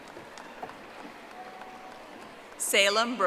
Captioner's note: audience applauding